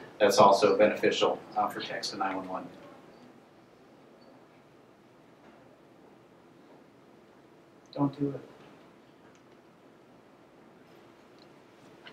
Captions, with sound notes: that's also beneficial for text to 911. - [Voiceover] Don't do it.